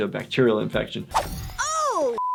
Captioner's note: beep